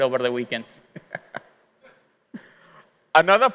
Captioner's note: chuckling